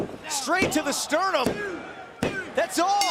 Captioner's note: crowd cheering